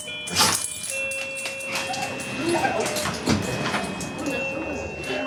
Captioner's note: doorbell rings, dogs whine excitedly